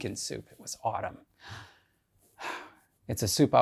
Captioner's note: sighs